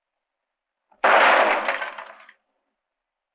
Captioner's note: gunshot